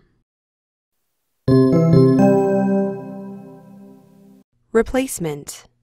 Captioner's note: chimes